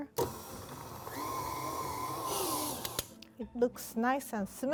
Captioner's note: mixer whirring